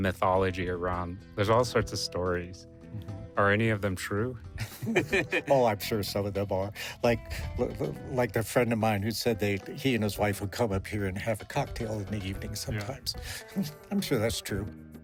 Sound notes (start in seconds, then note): 4.6 both laughing